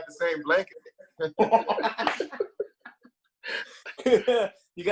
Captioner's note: both laugh